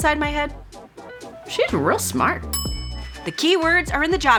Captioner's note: bell dings